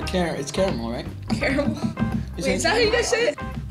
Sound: laughing

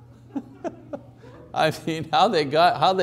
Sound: laughing

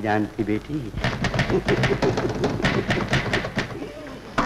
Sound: typewriter Clacking

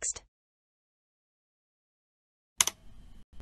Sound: click sound

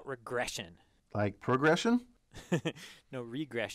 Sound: laugh

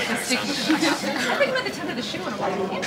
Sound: people laughing

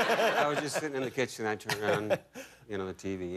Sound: laughter

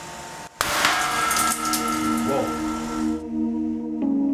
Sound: glass tube bursts

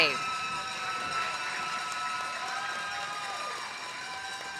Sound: audience applauding

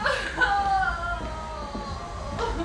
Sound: crying

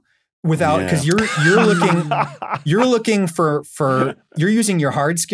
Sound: laughs uproariously

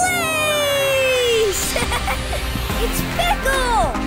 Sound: laughing

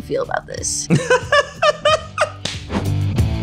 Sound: laughing; upbeat rock music

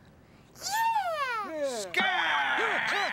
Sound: yelling; scream

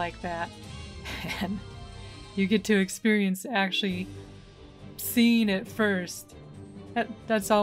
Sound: laughing

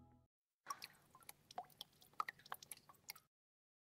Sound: small waterdrops falling

